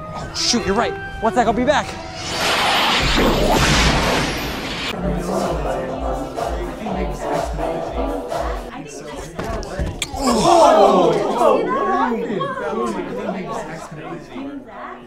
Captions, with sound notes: - Oh shoot, you're right. One sec, I'll be back. (flash blasting) (upbeat music) (all moaning painfully)